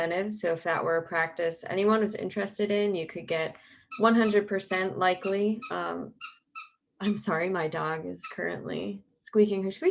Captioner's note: squeak